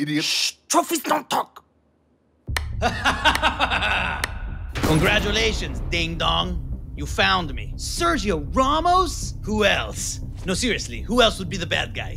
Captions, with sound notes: -Shh, trophies don't talk. -(Laughing) -Congratulations, ding-dong. You found me. -Sergio Ramos?! -Who else? No, seriously, who else would be the bad guy?